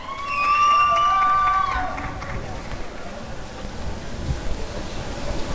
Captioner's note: applause and cheering